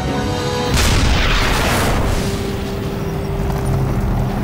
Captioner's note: explosion booming; tanks rumbling